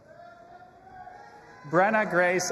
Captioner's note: audience applauding and cheering